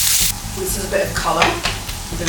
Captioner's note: sizzle